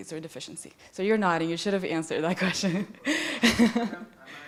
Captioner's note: laughs